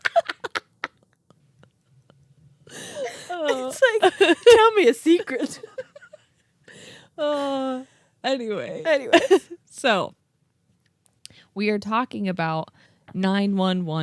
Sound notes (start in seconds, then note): 0.0 laugh; 6.7 sighs